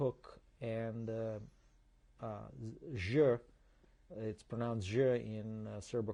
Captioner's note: non-english